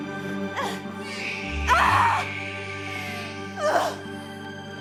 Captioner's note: baby crying